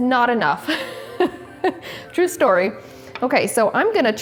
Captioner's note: laughs